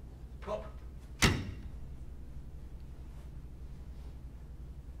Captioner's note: slam